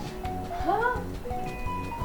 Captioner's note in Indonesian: tertawa